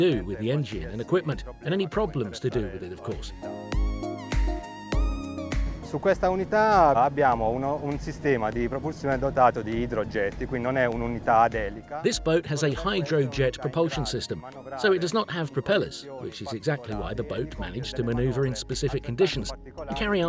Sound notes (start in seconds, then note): 3.9 upbeat music; 6.1 speaking in foreign language